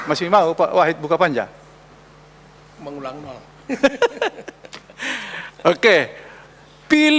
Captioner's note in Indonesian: tertawa